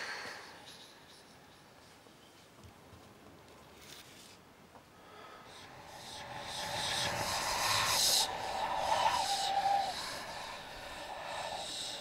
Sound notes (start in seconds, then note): 0.0 ghostly whispering; 5.7 ghostly whispering